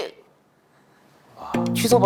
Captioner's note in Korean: 숨 막히는 정적